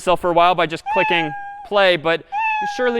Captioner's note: meow